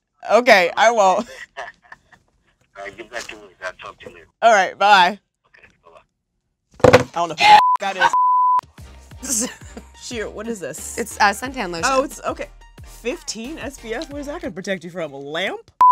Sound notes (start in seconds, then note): 1.2 laughs; 6.8 slams phone on table; 8.0 beep; 9.2 laughs